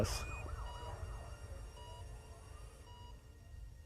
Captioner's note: beeping